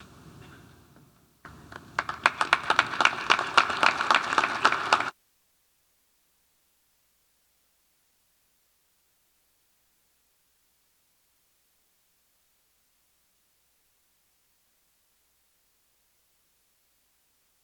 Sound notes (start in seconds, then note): 1.4 audience applauding